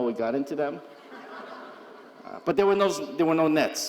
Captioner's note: audience chuckling